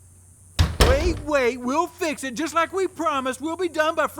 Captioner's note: door closes